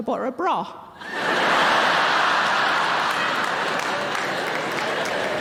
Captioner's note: audience laughing